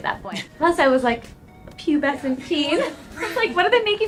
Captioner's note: laughs; laughs